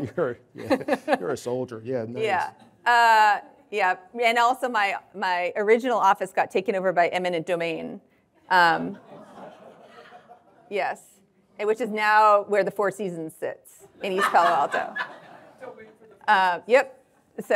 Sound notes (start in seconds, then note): 9.0 audience laughing